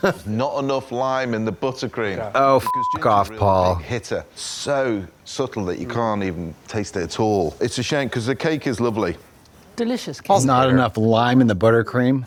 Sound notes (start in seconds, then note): 2.6 beep